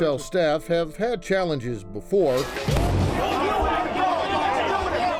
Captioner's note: rioting